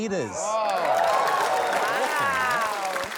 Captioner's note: cheering